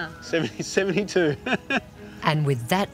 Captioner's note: laughs